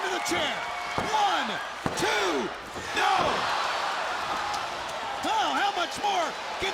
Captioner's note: hand pounding